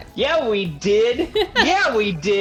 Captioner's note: chuckles